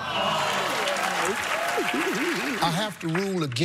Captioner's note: crowd cheering and clapping